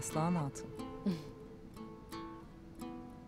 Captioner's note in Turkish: Aslıhan gülme sesi